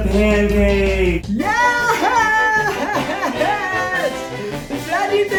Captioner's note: cheering